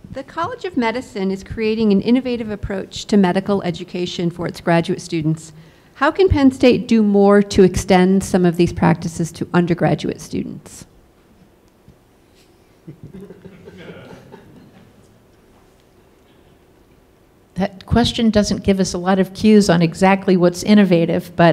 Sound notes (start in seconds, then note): 12.9 audience laughs